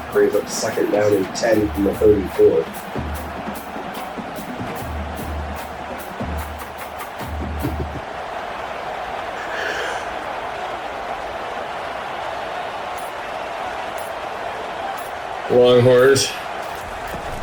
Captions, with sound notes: Create the second down and ten from the 34. [Crowd Noises] Long horse.